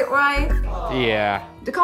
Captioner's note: crowd aww sound effect